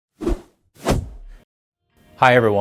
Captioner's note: logo whooshing into place